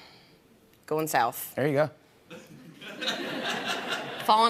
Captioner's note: laughter